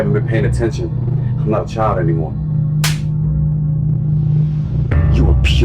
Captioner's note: hand slapping